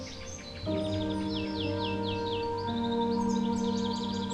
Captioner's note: birds chirp